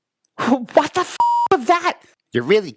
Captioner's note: beep